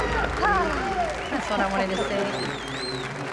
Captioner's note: cheering